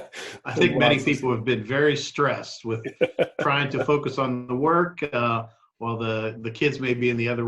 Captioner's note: laughter